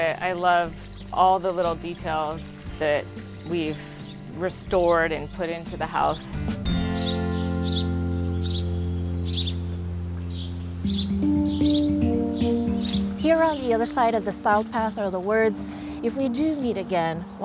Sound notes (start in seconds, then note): 6.3 bright music; 6.6 birds twittering